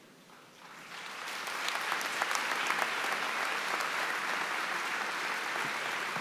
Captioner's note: applause